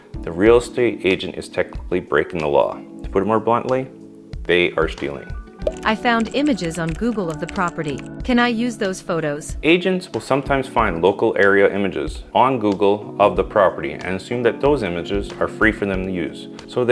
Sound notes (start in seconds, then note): 6.0 voiceover